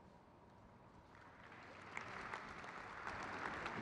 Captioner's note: crowd claps